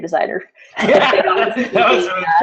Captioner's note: laughter